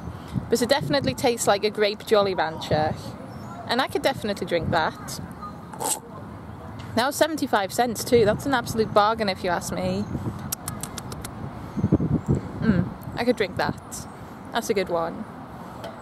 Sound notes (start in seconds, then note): 5.7 slurp; 10.4 lip smacking noises